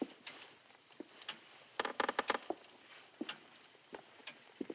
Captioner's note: floor creaking